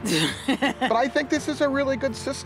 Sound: woman laughs

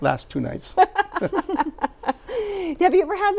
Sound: laughs

